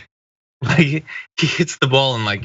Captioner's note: laugh